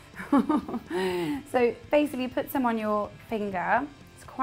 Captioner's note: laugh